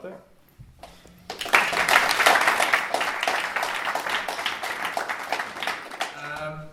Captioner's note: applause